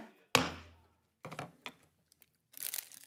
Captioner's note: gavel taps